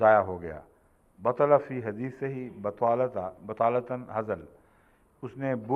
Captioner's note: Arabic